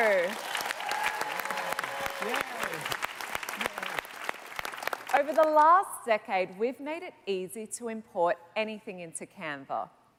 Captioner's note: cheers and Applause